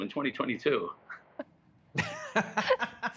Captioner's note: laughter